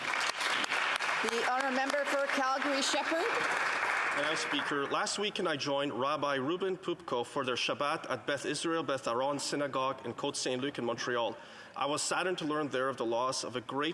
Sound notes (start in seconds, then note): 4.6 applause